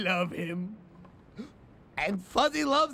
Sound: gasps

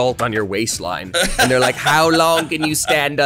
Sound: laughs

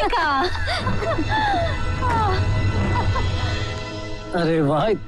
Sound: laughs

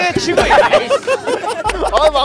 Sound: laughing

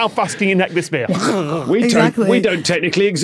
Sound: guzzles

